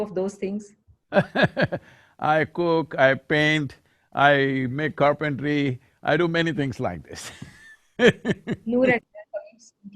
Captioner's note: laughs